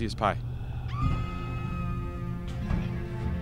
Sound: woman screaming; suspenseful music

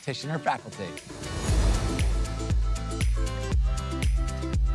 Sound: transition whooshing

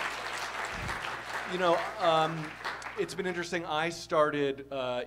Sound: applause

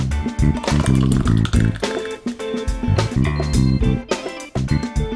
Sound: juice splashing

